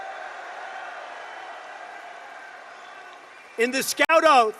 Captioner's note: applause